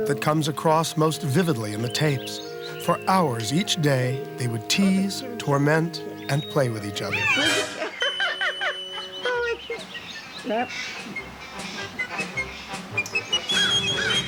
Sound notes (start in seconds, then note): 7.1 laughs; 10.0 playful music